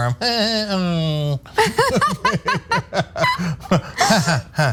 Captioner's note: laugh